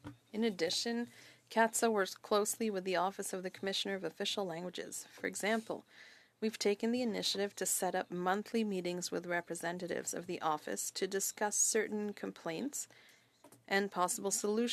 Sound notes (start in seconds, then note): 5.4 speaking French